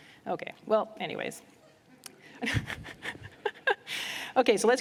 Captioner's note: laughs